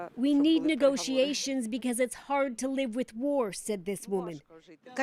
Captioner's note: speaking alternate language